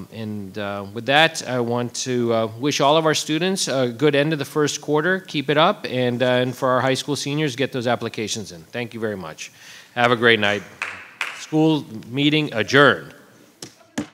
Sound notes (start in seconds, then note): 10.5 audience applauding